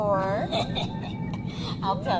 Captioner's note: guttural laugh